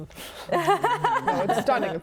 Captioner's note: laughs